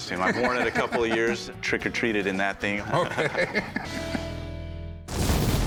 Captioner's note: laughs